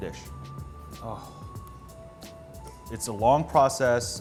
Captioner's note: groans